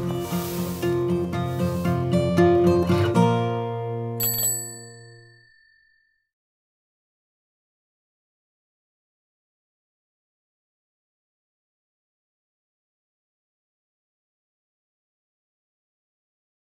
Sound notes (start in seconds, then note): 0.0 upbeat guitar music; 4.2 bell ringing